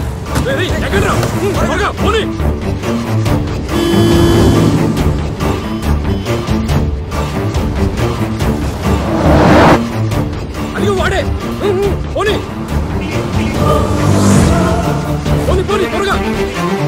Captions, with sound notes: Hey…get in. Move! Quick! [HONKING] He is the one. Come on, move. Drive faster.